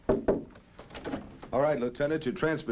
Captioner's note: knocking